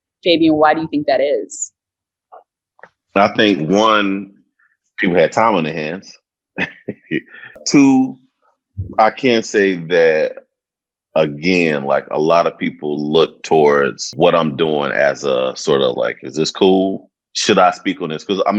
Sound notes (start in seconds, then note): 6.6 chuckles